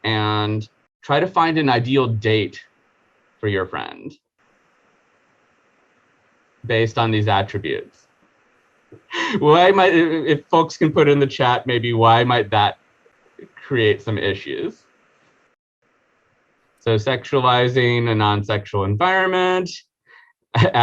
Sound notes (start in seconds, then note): 9.0 chuckling